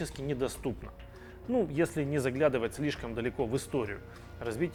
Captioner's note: Ukrainian